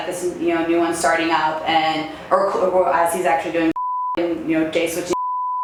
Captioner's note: beeps